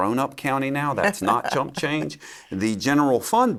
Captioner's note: laughs